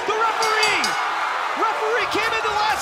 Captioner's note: bell; cheers & applause